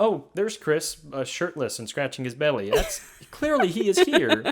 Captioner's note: laughs